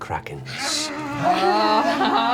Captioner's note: yells